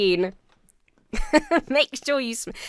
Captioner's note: laughs